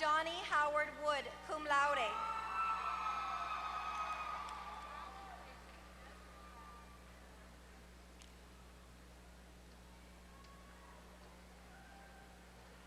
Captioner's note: applause